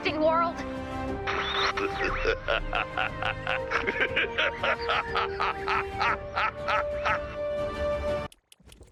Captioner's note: evil laughter